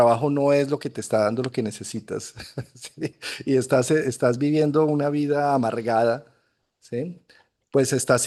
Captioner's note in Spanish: risas